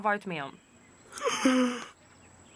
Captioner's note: yawning